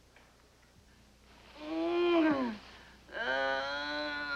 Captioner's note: moaning